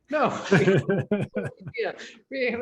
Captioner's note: laughing